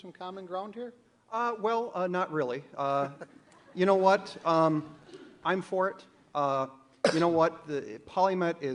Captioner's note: audience laughs